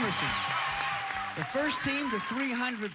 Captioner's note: audience applauding